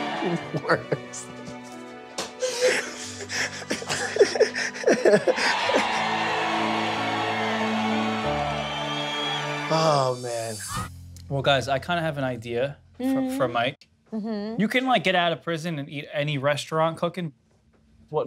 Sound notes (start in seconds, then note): 0.0 gentle piano music continues; 2.4 laughs; 4.8 audience cheering; 6.1 gentle piano music continues